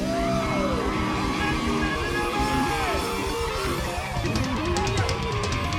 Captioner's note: crowd cheering